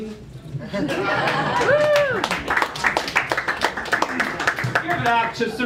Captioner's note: laughter